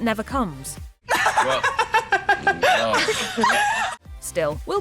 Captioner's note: laughing